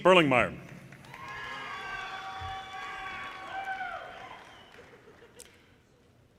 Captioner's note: audience cheers and applause